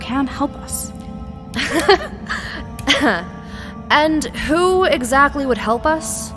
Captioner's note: slight chuckle